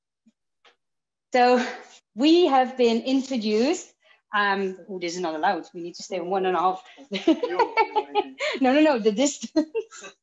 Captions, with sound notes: So we have been introduced. This is not allowed. We need to stay 1 and 1/2-- [CHUCKLES] No, no, no, the distance.